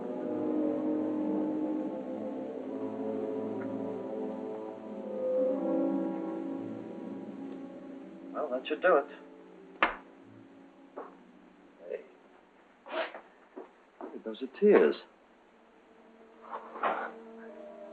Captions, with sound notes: Well, that should do it. - Hey. - [sniffles] Hey, those are tears. [somber music]